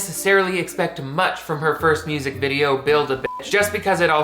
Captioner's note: beep